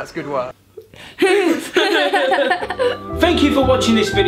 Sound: gleeful laughter

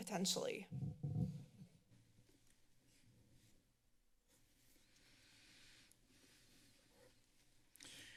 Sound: silence

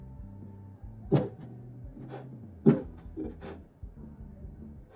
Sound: muffled sobbing

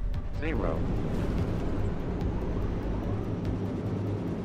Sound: machine whooshing

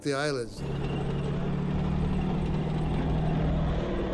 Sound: tanks rumbling

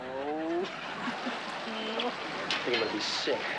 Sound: chuckles

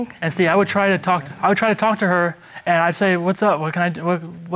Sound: stammering

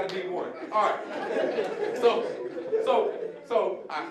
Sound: audience laughing

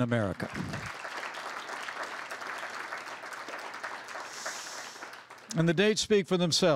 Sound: applause

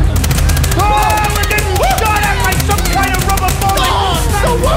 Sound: gunfire

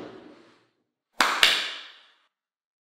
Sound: hands clap

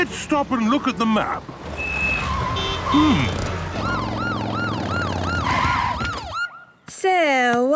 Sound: honking, sirens

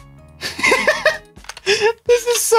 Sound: laughing

